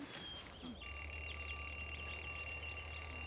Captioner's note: alarm ringing